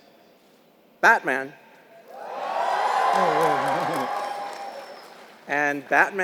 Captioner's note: applause